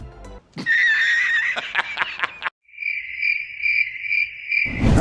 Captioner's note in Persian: خنده